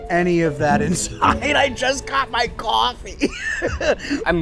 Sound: laughs

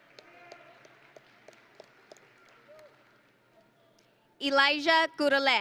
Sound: audience and graduates applauding

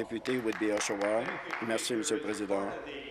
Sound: applause

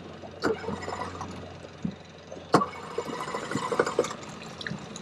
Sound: engine sputtering

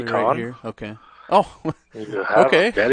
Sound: laughs

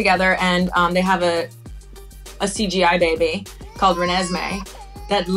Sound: baby crying

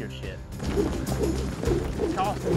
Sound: rope whirling

